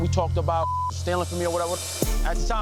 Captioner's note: beep